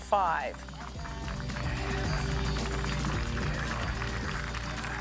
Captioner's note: audience applauds